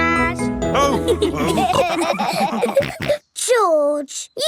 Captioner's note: all laughing